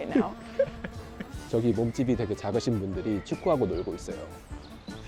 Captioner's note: haha